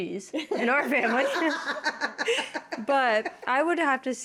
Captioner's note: all laughing